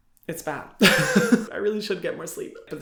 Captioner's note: Hyram laughs